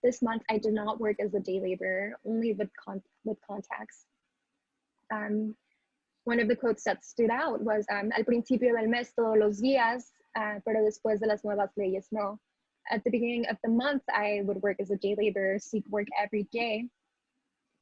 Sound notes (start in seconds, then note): 9.1 speaking spanish